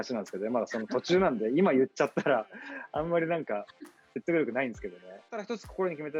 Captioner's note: laughs